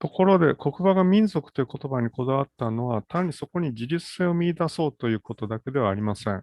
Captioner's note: speaks in Japanese